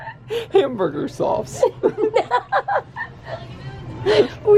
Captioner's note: both laugh; laughter